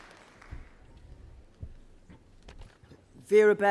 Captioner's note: applause